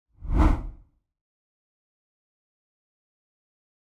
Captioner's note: screen whooshing